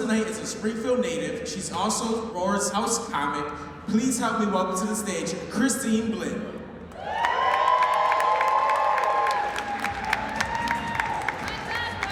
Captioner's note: applause